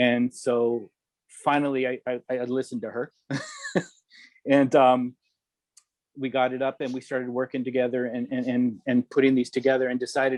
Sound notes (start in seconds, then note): 3.2 chuckling